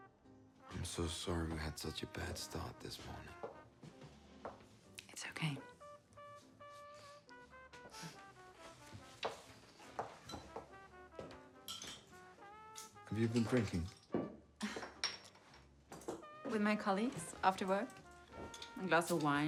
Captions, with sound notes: I'm so sorry that we had such a bad start this morning. - It's okay. (chuckles) - Have you been drinking? (Marie chuckles) - With my colleagues, after work. A glass of wine.